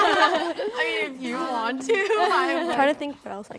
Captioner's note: laughs